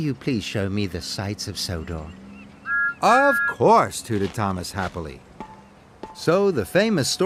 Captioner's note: Thomas' whistle toots